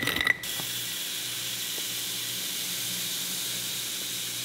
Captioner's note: seeds softly pouring